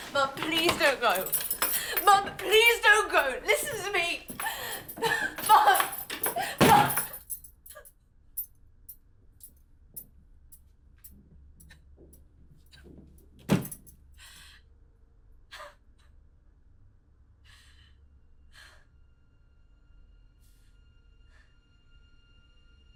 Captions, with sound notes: Mom, please don't go. Mom, please don't go, listen to me! Mom! (door thuds) (crying) (solemn ambient music)